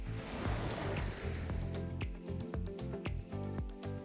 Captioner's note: upbeat continues; waves crashing